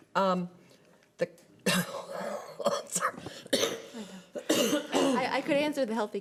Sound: coughing

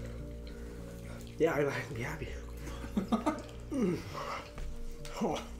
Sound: short of breath

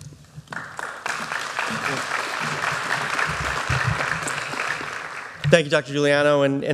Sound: applause

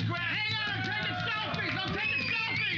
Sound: cheers and applause

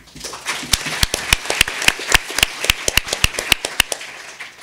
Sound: audience applauding

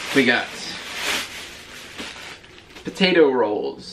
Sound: plastic crinkling

